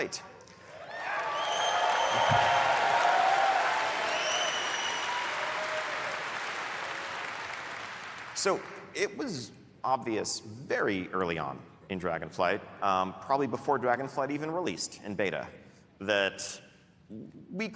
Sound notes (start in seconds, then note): 4.0 cheering